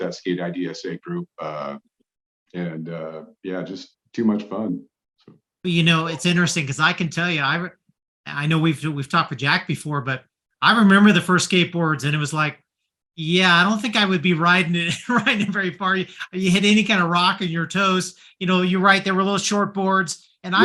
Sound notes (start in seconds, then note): 14.8 chuckles